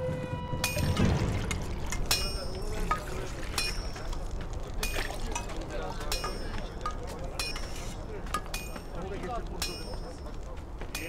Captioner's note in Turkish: Demir Dövme Sesi